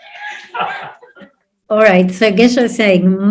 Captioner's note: audience laughs